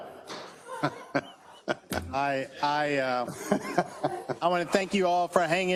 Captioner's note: laugh